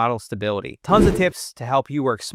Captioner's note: air whooshing